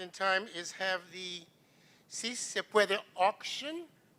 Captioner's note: non-english speech